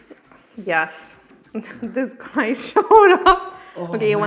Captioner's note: laughs